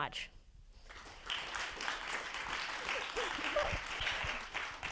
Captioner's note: attendees applauding